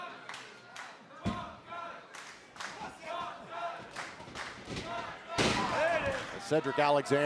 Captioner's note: crowd cheering